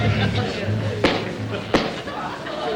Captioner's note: shoe Tapping